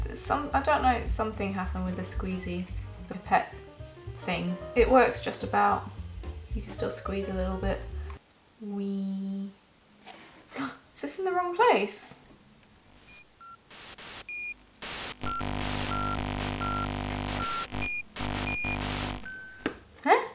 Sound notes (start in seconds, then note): 10.0 gasp; 13.0 technical error noises